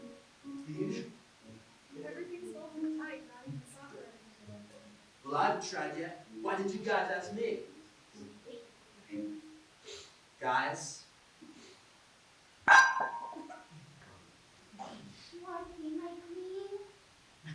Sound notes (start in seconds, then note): 12.7 tea cup falls